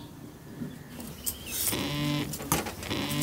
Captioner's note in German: Handy vibriert